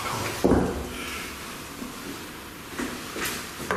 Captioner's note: knocking